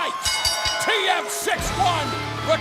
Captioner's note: bell ringing